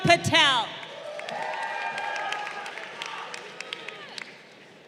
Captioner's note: crowd cheering